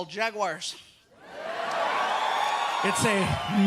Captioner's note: crowd cheers